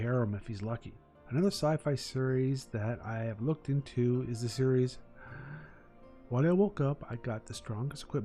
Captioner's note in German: tief durchatmen